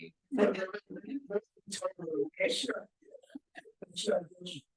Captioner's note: sound distorted